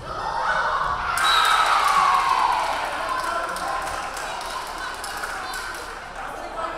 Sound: crowd cheering; referee whistling

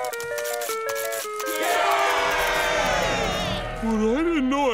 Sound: cheering

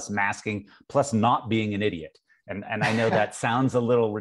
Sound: laughs

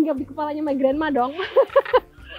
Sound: chuckled

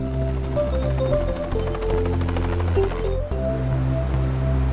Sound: lighthearted music; helicopter engine

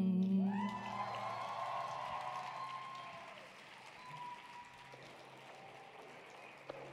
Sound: audience cheering; audience applauding

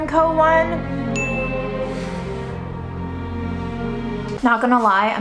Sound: somber music; dinging

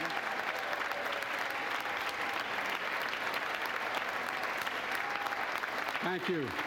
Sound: applause

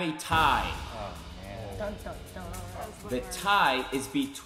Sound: all grumbling

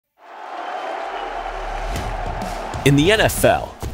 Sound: spectators cheering

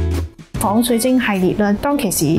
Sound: Cantonese

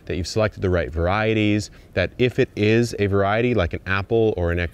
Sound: none

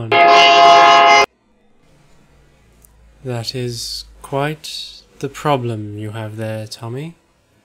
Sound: train noise

